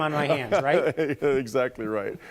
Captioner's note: laughter